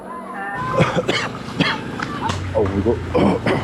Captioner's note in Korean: 기침